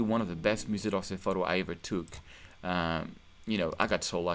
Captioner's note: speaking in French